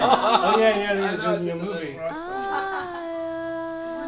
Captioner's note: laughing; all chattering